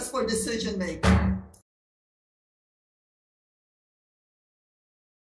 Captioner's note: gavel thumps